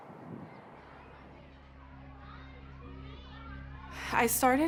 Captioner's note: children chattering